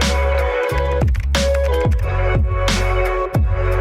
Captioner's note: upbeat music; typing